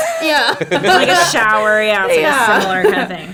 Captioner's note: laughing